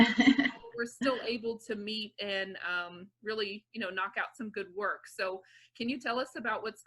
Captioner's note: laughing